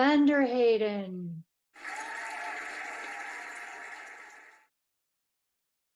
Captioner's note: cheering and applauding